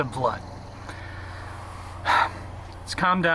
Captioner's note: sighs